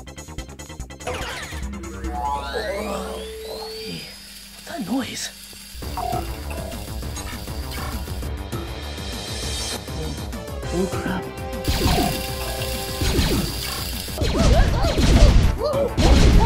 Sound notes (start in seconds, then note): 5.8 robot sounds; 11.6 lasers firing; 14.0 Mario and Luigi scream